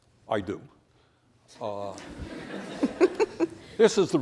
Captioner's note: laughter